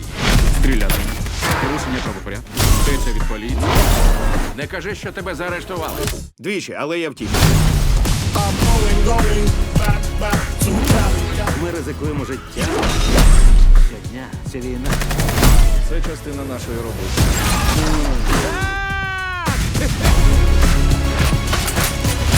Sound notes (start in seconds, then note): 17.4 engine revs; 19.3 laughs